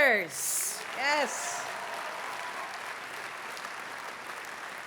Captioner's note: cheering, applause